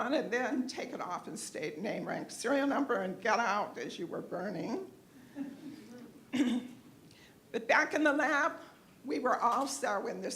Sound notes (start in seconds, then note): 5.3 laughter